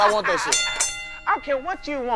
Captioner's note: ding ding